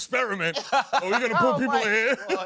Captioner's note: laughs